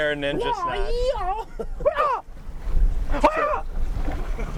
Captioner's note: grunting